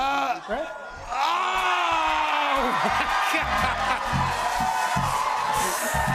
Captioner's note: audience exclaims; cheers and applause